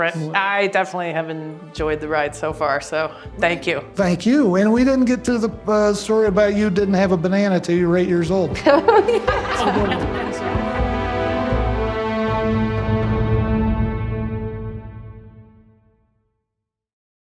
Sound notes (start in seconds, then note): 8.6 laughing